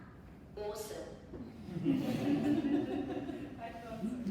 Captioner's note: audience laughing